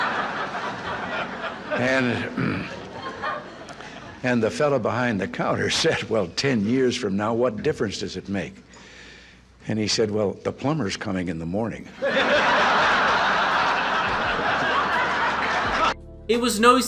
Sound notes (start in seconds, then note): 11.9 crowd Laughs